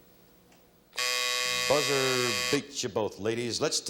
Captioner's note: timer buzzes